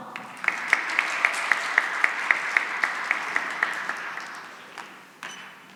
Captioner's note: applause